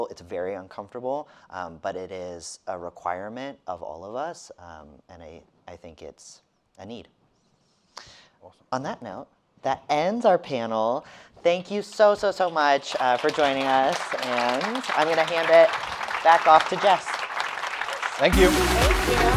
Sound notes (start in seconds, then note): 13.9 audience applauding